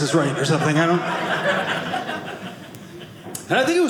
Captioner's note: audience laughing